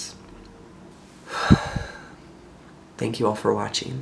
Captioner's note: breathe